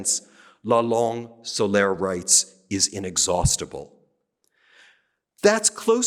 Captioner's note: speaking french